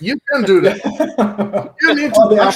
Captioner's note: laughing